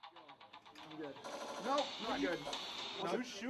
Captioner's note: gun shots